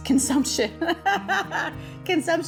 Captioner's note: laughing